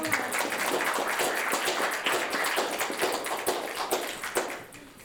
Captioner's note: applause